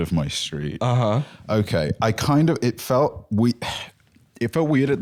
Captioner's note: sighs